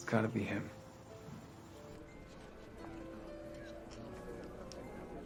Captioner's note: people chattering